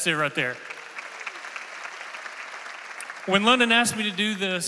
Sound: congregation applauding

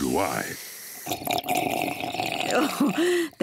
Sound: slurps

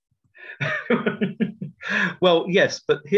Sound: laughs

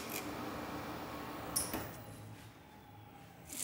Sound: whirring stops

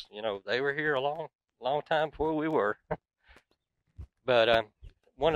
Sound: chuckles

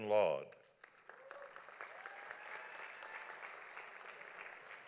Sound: audience applauding

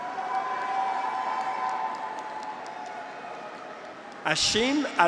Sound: graduates cheer; audience applauds

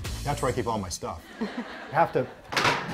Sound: crowd laughs

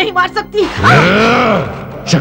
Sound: grunts

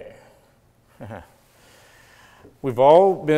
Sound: chuckles

